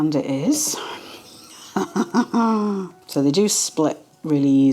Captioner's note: frustrated laugh groan